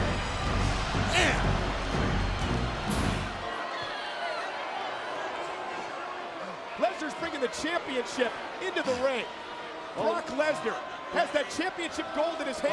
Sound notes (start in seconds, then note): 3.7 audience chattering